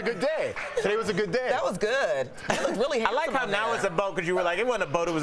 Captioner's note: laughter